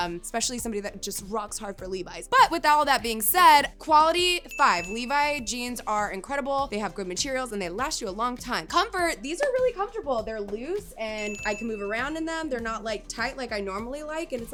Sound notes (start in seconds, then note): 4.4 bell ringing; 11.1 bell ringing